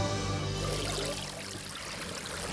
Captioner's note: water bubbling